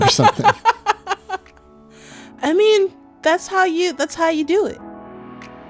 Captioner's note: laughter